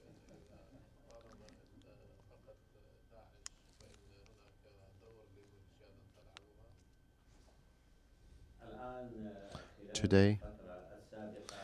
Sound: through translator

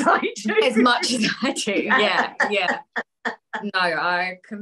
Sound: laughs; laughter

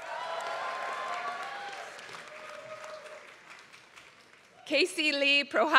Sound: applause

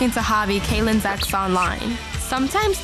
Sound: bird tweeting

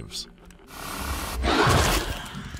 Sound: alien hiss

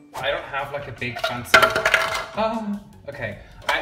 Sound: plastic clanks; gasps

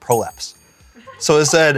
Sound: crew laughs

